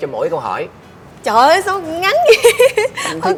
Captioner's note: laugh